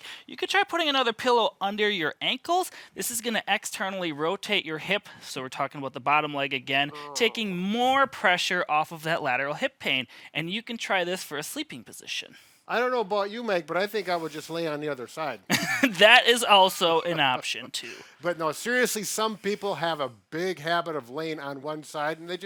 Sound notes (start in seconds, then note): 15.5 chuckling; 16.9 laughing